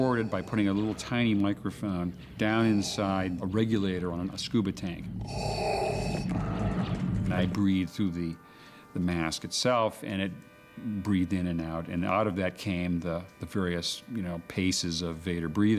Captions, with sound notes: BY PUTTING A LITTLE TINY MICROPHONE DOWN INSIDE... A REGULATOR ON A SCUBA TANK. [ Mechanical Breathing ] I BREATHED THROUGH THE MASK ITSELF, AND IT BREATHED IN AND OUT, AND OUT OF THAT CAME THE VARIOUS, YOU KNOW, PACES OF VADER BREATHING.